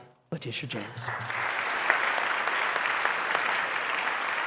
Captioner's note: applause